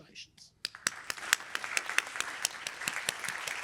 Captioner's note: applause